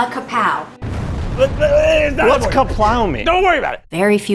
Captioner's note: explosion booming